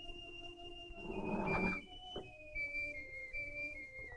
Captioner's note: shade scraping